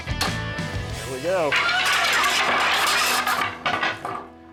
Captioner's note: wood clanking